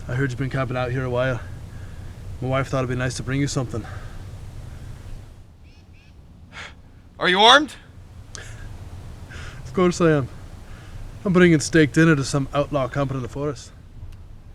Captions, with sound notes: I heard you'd been camping out here a while... my wife thought it'd be nice to bring you something. Are you armed? [LAUGHS] Of course I am... I'm bringing steak dinner to some outlaw camping in the forest.